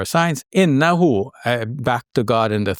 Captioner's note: speaking Arabic